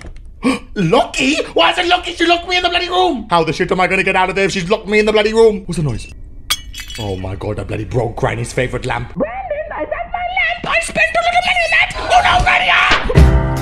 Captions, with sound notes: *GASP* Locky?! Why is it locky? She locked me in the room! How am I gonna get out of here if she's locked me in the room! What's that noise? *SMASH* Oh my god, I broke Granny's favorite lamp! - Brandon is that my lamp? I spent a lot of money on that! - OH NO, GRANNY AHHH!